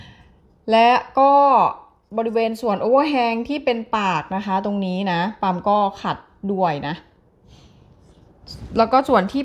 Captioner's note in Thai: เสียงสูดหายใจ